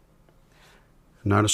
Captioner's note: silence